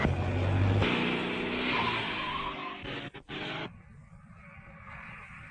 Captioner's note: car crashing; tires squealing